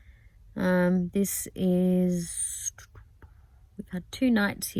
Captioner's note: makes thinking noises